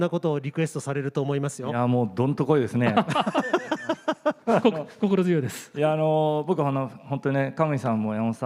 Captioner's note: laughs